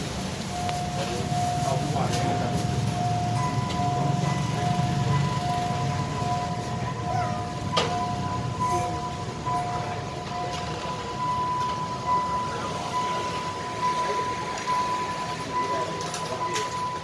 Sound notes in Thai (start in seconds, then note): 0.1 ติ๊งๆๆๆ; 7.7 ติ๊งๆๆๆ